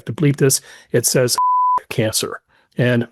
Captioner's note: beep